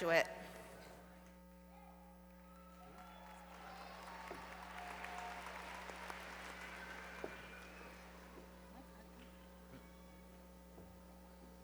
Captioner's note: applause